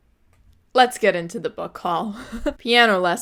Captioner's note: laughs